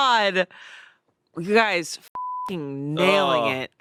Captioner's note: beep